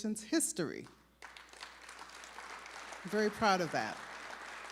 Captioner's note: applause